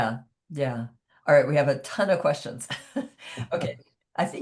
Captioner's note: chuckles